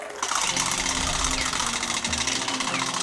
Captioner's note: wheel clicking